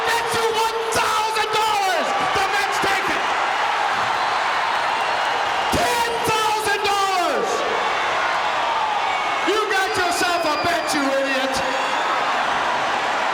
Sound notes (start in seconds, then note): 3.3 audience cheering; 7.6 audience cheering